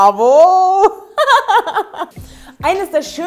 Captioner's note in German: Sie lacht